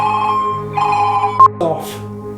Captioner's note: phone rings